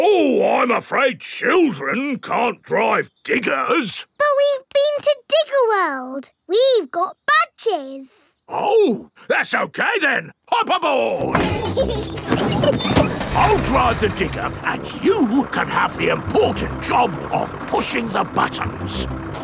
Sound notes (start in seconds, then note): 11.2 peppa and george laughing